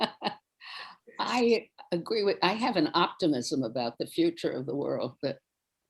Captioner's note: laughing